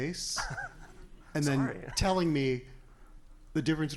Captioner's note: laughs